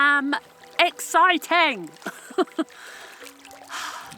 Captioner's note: giggle; sigh